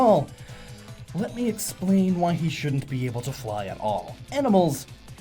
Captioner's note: inhale